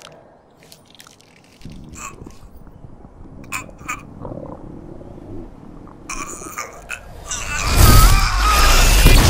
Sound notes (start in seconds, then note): 3.4 sounds of crunching flesh, an upset stomach; 7.4 screaming and flesh rending